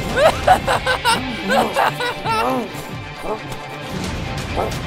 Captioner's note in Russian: Смех дьявола